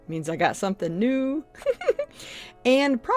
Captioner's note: chuckles